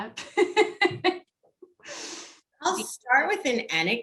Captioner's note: laughs loudly